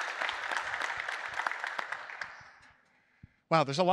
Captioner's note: applause